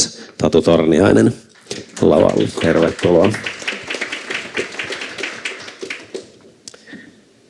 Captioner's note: Aplodeja